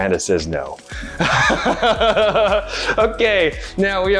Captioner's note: chuckling